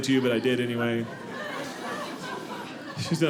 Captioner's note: audience laughing